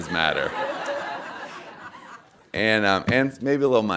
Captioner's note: audience laughing